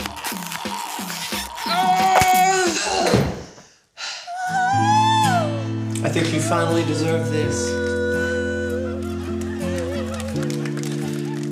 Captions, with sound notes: (GROANS) I think you finally deserve this. (INSPIRATIONAL MUSIC PLAYS)